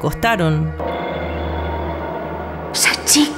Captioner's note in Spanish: Sonido tétrico